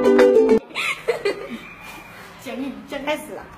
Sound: laughing

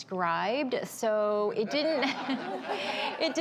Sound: audience laughs

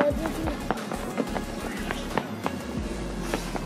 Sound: footsteps; upbeat music

